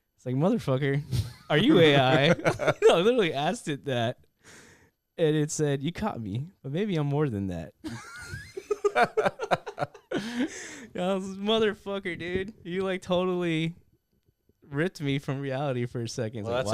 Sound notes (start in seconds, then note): 7.8 laughter